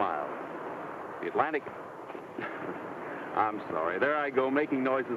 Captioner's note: laughs